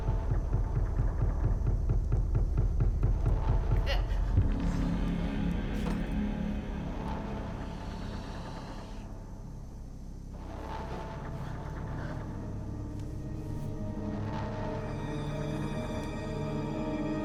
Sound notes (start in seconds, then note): 3.8 Belle grunts; 4.6 tense music; 12.2 suspenseful music